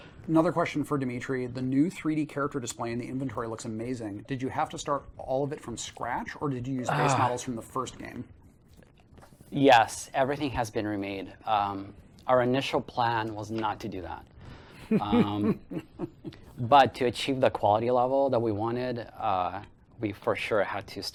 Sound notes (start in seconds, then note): 14.9 laughs